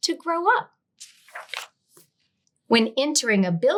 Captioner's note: page rustling